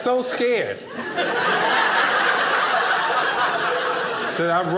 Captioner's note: audience laughing